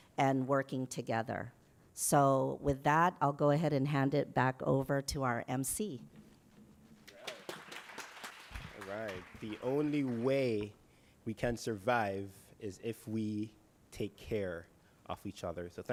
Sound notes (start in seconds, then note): 7.0 applause